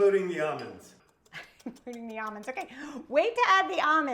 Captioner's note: laughs